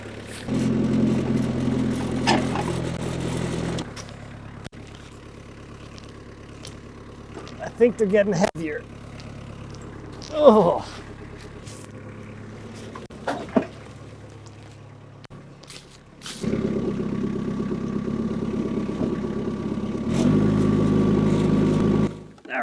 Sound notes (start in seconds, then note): 0.3 skid steer engine humming; 10.3 grunts; 19.9 skid steer engine revving